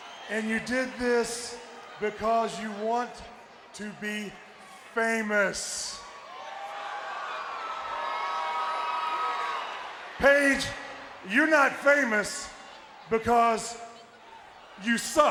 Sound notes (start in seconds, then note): 6.3 audience booing